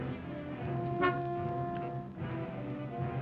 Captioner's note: horn honks